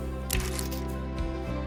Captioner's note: chain locks